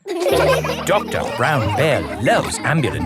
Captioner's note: all laughing